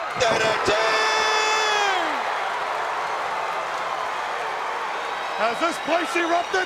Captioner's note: crowd cheering